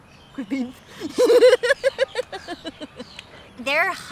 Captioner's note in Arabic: يضحك